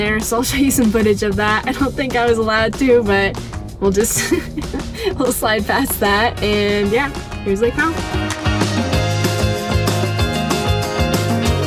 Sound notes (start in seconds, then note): 4.0 laughs; 8.2 cheerful upbeat music